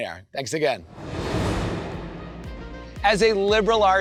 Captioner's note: transition whooshes